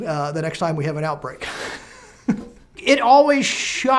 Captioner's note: laughing